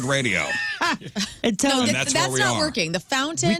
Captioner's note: laughter